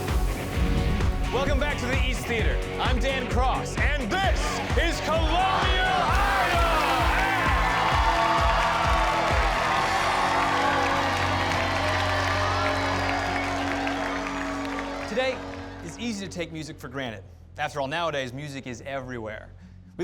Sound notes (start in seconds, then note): 0.2 upbeat electronic music; 7.2 cheers and applause